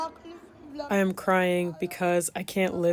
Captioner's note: through translator